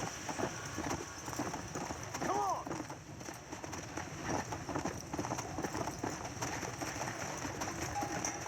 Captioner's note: sounds of a galloping horse